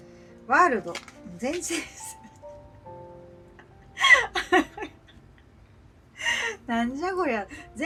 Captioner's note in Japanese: 笑い